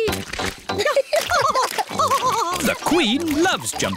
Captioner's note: both laughing